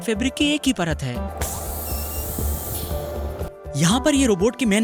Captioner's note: air hissing